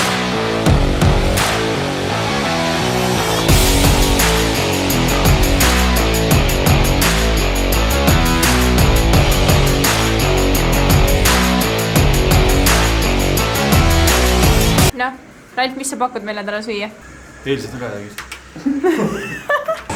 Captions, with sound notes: Well Ralf, what are you cooking for us today? Yesterday's leftovers [many laugh]